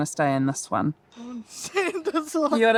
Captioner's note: laughing